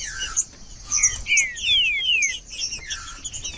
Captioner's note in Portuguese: trinca ferro cantando